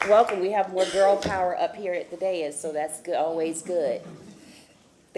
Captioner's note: applause